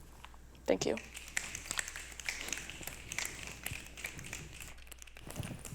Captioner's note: snapping